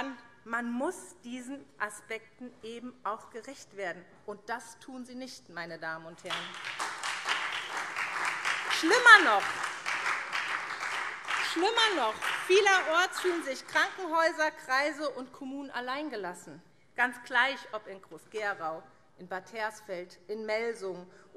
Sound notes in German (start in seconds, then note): 6.2 Beifall SPD